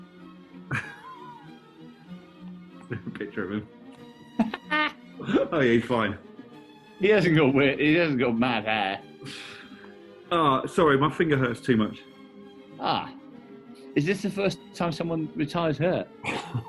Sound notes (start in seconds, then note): 0.7 chuckling; 4.3 laughing